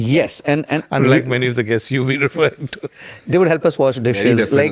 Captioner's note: laughs